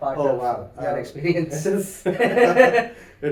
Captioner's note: laughs